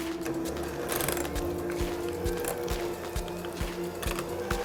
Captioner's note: mixer whirring